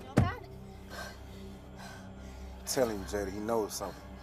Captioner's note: Jada breathes heavily